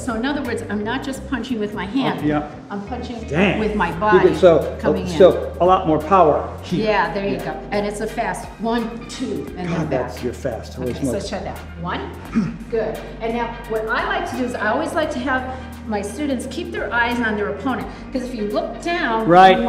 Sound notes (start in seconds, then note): 12.3 Tony grunts